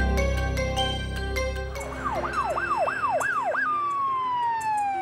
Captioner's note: emergency sirens